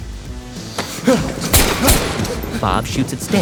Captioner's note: gun firing